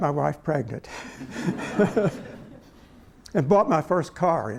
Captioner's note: laughter